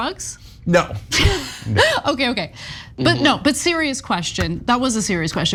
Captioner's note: laugh